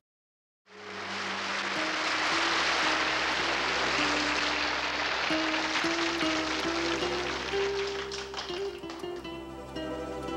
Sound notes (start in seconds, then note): 0.9 audience applauding; 5.0 soft music